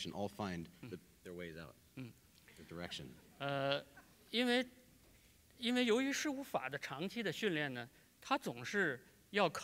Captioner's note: speaking in Chinese